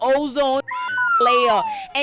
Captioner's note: beep